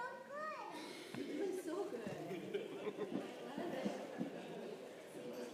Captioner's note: crowd laughing